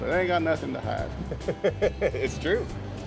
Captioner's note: Aaron laughs